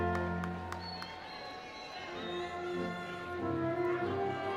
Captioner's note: audience applauding; audience cheering